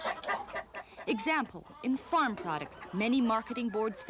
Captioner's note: clucking